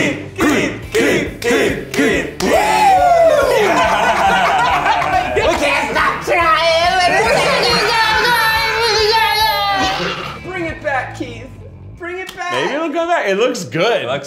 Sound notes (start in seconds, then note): 3.3 laughing